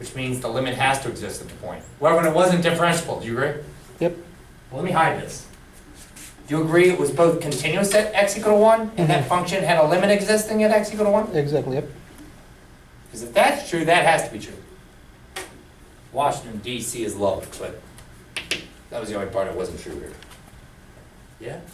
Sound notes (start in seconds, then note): 11.7 voiceover